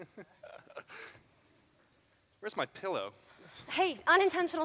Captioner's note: laughs